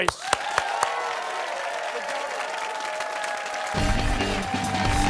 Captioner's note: cheers and applause